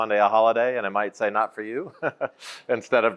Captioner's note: laughs